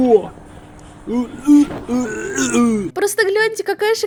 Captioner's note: real sounds from his mouth